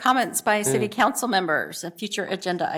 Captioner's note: laughter